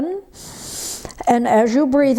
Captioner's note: breathes heavily